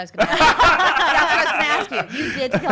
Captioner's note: laughing